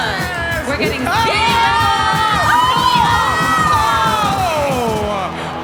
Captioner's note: shouting